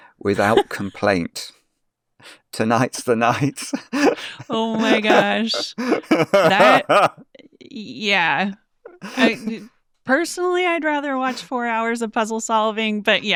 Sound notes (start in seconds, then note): 3.3 group laughing